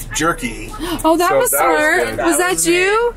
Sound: gasps

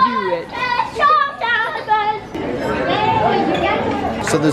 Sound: kids shouting

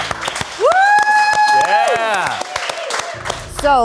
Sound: audience cheering; audience clapping

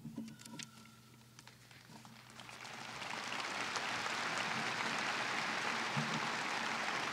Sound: applause

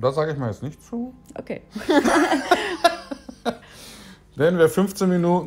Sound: both laugh

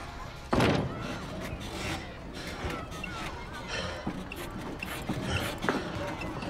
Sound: metal squeaking

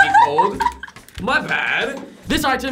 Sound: laughs

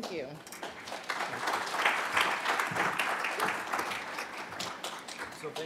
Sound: applause

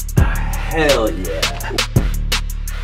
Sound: seductively

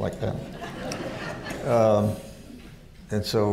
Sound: laughter

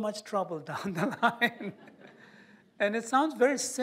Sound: laughter

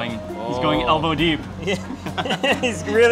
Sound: laughing

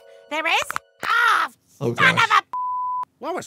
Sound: beep

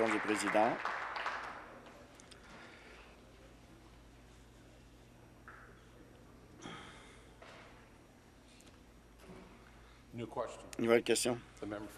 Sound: applause

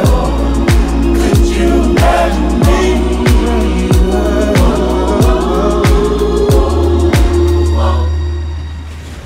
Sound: ooh

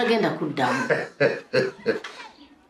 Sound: chuckles

